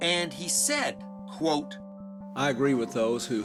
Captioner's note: soundbite of archived recording